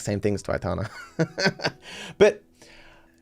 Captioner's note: laughs